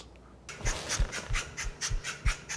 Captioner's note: propellers whirring